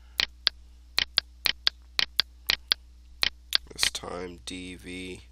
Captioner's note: mouse clicking